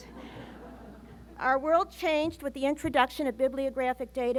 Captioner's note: laughter